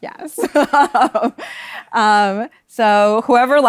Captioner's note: laughs